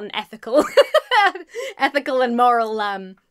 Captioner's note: laughs